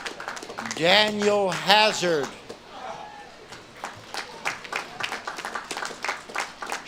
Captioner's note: audience claps and cheers